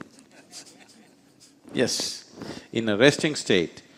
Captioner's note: laughs